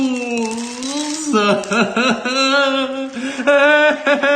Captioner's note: laughs